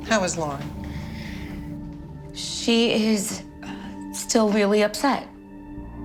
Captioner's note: inhales deeply